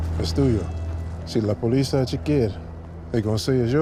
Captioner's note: boss speaks Spanish